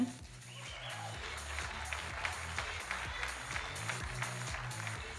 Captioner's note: audience applauding